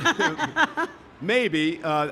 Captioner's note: both laughing